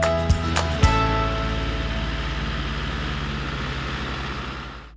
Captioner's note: tractor driving